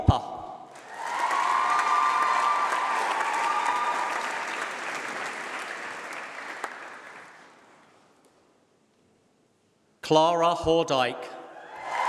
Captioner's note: applause